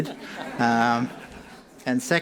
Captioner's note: laughing